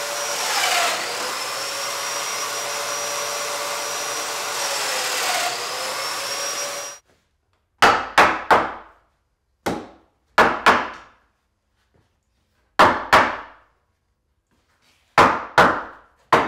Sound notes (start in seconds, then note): 0.7 nailing machine inserting nails